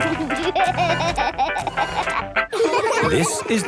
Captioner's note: upbeat music; giggling